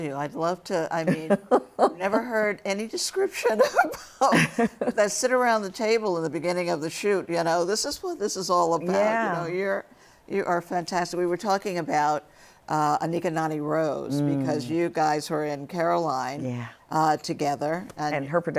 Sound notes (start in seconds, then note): 3.6 laughter